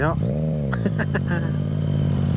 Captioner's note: laughing